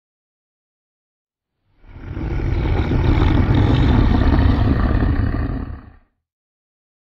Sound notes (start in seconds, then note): 0.0 growl